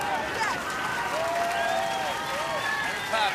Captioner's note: cheers and applause